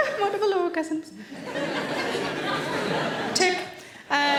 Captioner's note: audience laughing